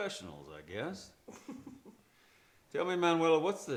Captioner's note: Manuela chuckles